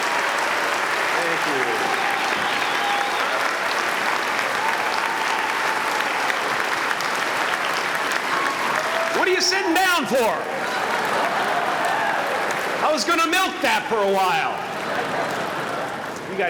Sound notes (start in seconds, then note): 4.3 applause